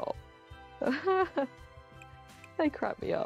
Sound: laughs

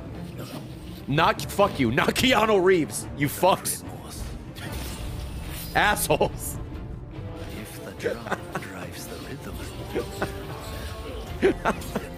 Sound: laughs

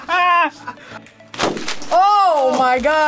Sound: laughs; bag pops

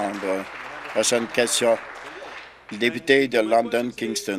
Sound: applause

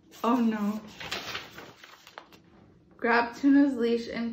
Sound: paper rustling

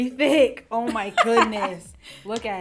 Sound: laughs

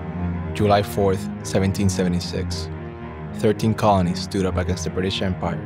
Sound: voiceover

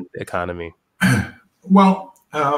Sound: cough

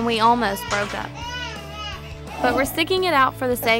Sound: crying

